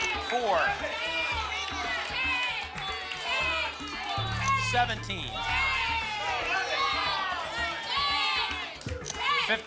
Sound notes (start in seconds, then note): 0.0 audience shouting numbers; 1.5 audience shouting numbers; 5.9 audience shouting numbers